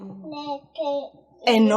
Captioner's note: baby playing in the background